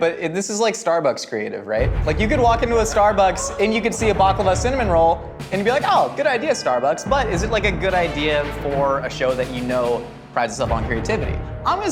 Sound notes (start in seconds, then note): 2.0 dramatic music; 2.0 gasps